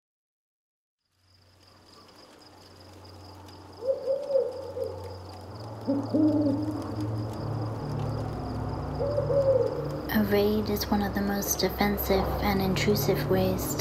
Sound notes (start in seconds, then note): 1.1 crickets chirp and wind blows; 3.9 owl hoots